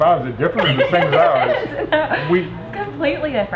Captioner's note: laughing